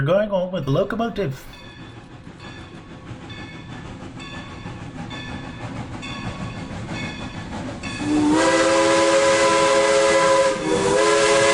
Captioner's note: train bell and whistle